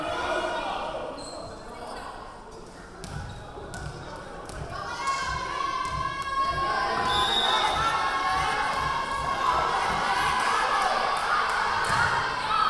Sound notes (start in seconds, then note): 0.2 yelling; 7.0 whistle blowing; 9.8 yelling